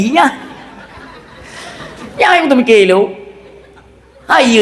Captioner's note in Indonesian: tertawa